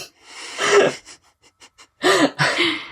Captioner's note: laughs